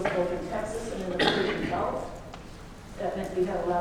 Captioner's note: coughing drowns out speaker